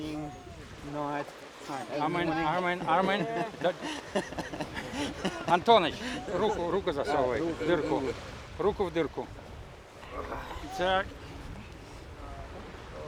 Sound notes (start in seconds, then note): 4.6 laughter; 5.4 speaking russian